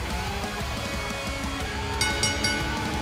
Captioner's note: bell ringing